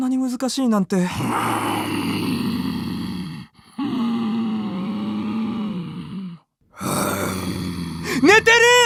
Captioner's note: snores